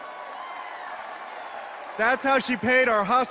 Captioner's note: applause